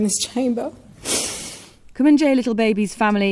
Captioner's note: sniffs